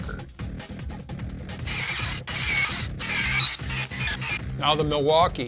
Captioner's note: drill noises